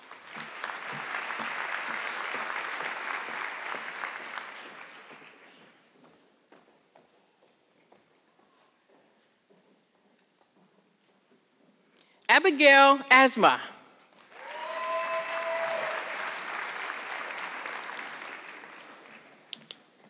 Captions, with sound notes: (audience clapping) Abigail Asma. (audience clapping)